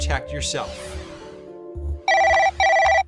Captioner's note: cell phone ringing